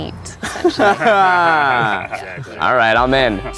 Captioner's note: laughing